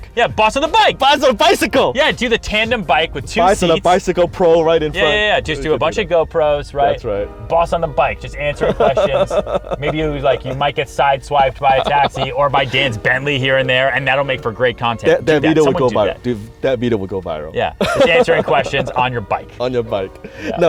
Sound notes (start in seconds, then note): 17.8 laughing